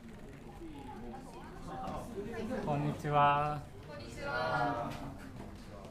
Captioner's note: speaking foreign language